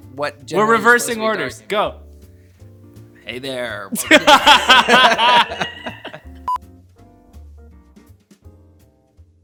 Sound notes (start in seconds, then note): 4.0 laughing; 7.0 soft music